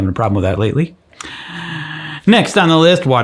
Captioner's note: deep inhaling